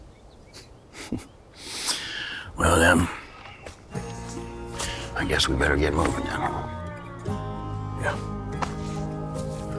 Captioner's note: snorts